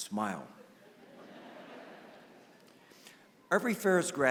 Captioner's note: laughter